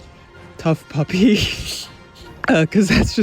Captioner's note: bewildered laugh